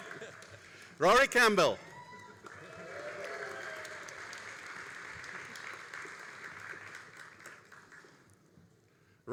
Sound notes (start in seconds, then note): 1.8 all applauding and cheering